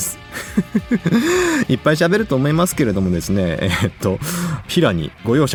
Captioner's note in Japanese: 笑い